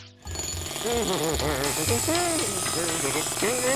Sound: humming

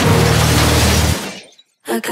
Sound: gunshot; car crashes

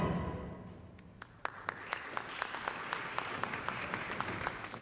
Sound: applause

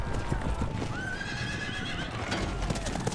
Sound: neighs

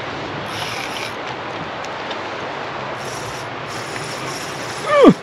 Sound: fish splashing; reel cranking

